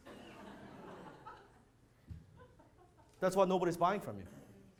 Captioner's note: audience laughs